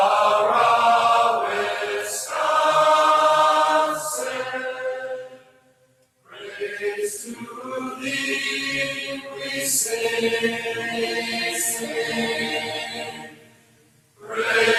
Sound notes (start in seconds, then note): none